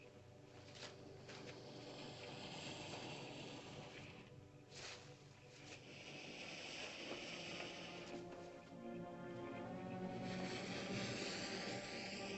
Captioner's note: ominous music; lizard makes soft hissing sound